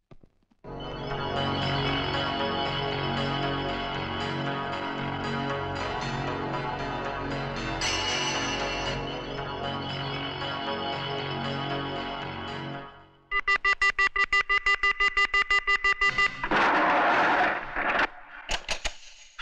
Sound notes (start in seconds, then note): 13.3 beeping